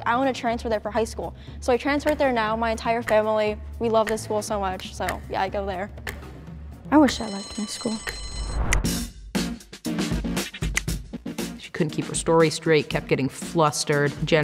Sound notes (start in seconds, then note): 7.0 bell ringing; 8.9 upbeat music